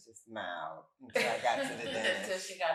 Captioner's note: all chuckle